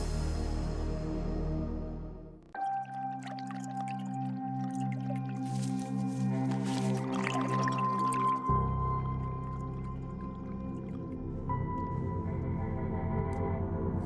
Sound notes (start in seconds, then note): 2.9 liquid bubbling; 9.0 liquid bubbling